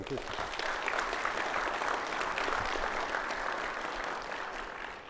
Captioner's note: audience applauding